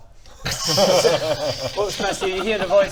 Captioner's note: reckless giggles